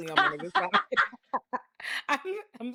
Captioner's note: laughing